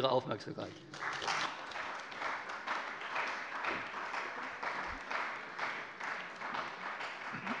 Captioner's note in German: Beifall bei der CDU und dem BÜNDNIS 90/DIE GRÜNEN